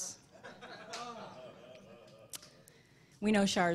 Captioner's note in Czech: smích